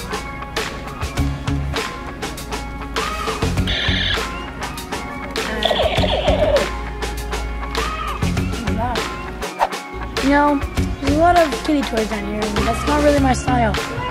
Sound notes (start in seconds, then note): 0.3 upbeat music; 3.7 toy gun beeping